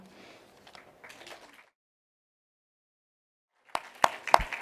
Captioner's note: applauding